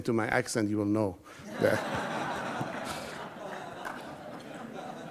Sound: audience laughs

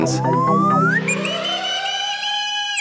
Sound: whistling

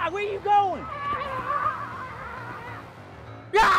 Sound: frog screams

